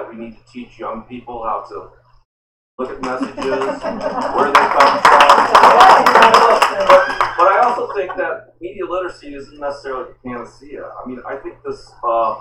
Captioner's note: applause